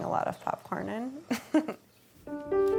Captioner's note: laughs